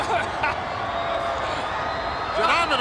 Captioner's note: laughs